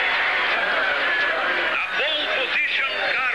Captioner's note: man Announcing